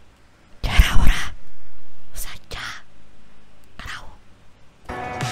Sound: whispers

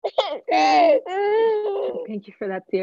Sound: baby crying

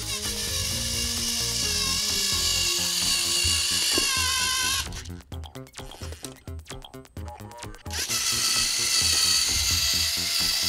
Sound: electric rover motor

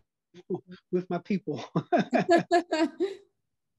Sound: laugh

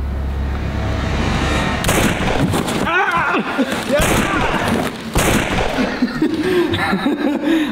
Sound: gun Shot

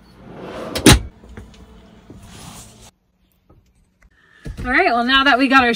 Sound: drawer clicks closed

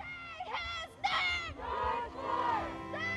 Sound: crowd

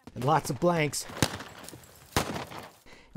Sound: gun fires

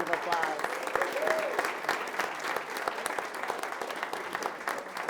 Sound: audience applauding

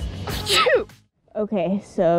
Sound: sneeze

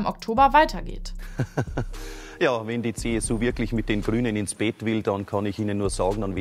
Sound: Lacht

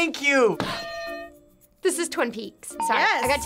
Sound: bell rings

